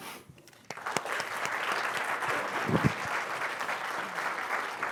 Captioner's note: applause